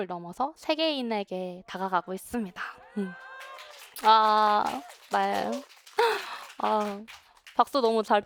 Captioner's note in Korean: 환호